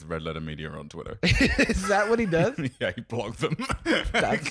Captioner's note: laughs